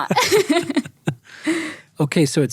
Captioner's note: laughing; chuckles